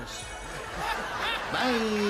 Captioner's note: laughter